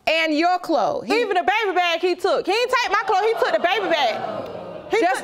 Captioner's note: audience groans